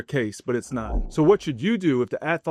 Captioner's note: transition whooshes